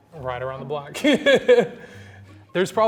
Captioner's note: laughs